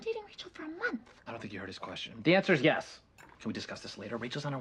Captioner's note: whispered